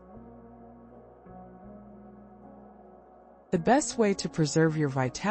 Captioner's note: pause